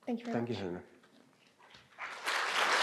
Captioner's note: applause